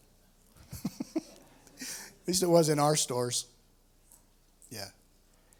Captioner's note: laughs